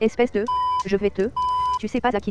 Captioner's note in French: biiip